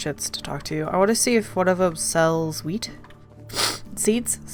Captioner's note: sniffles